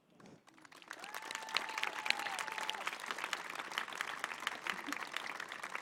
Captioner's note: applause; cheering